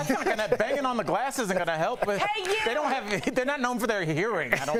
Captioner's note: laughter